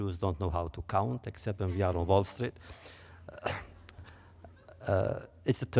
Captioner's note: laughter